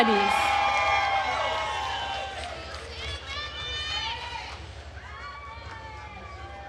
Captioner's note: attendees cheering and applauding